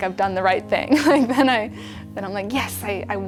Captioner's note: chuckles